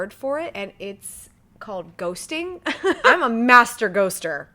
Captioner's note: chuckles